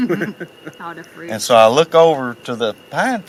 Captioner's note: laughing